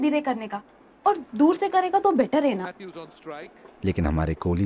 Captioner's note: TV playing